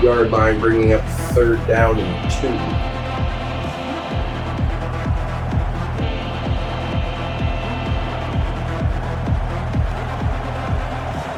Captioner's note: crowd Noises